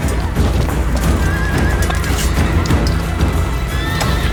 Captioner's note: fighters grunting